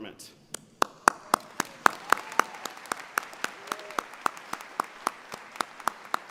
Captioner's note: applause